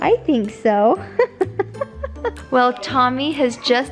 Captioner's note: giggling